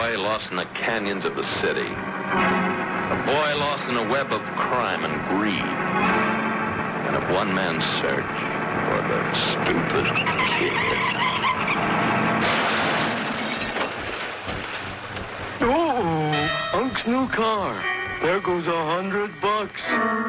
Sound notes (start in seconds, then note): 10.8 tires screeching; 11.6 car thuds